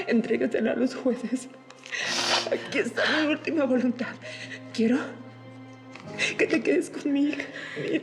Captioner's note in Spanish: sollozos